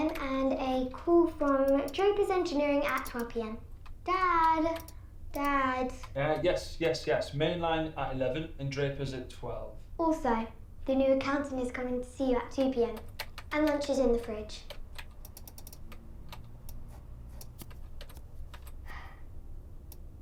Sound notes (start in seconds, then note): 15.5 keys clacking